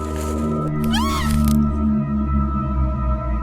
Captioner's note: Riley screams, branch rustling